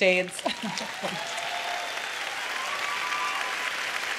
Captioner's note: cheers and applause